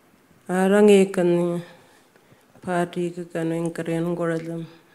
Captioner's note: speaking Anmatyerr